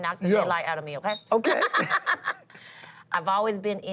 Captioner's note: laughs